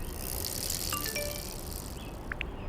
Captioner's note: phone chimes